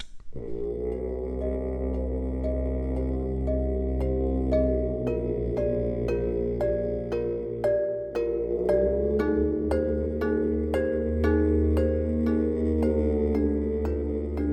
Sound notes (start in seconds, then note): 0.7 boat engine humming; 4.4 dramatic music